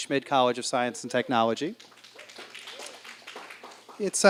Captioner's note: applause